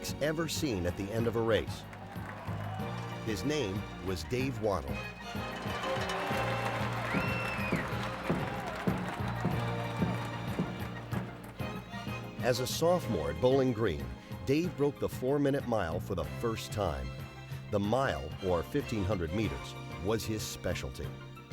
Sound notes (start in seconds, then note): 5.1 bell ringing and crowd cheering